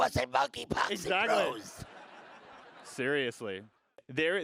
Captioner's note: audience laughs